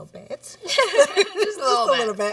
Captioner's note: laughs